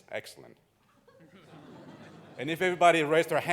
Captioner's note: audience laughing